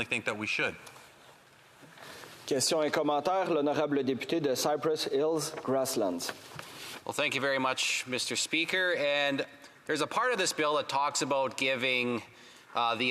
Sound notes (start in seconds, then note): 7.9 speaking French